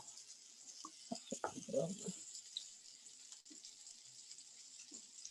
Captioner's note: murmurs